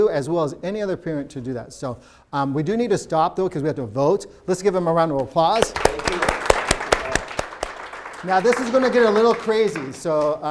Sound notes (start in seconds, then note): 5.5 applause